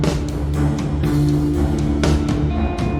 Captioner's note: none